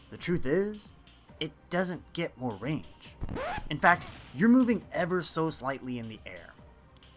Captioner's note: record scratch